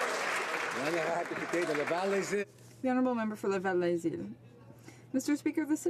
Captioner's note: some Applause